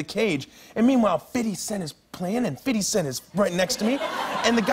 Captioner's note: laughter